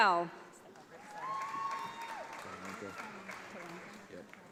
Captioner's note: audience applauds